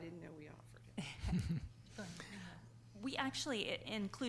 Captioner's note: laughs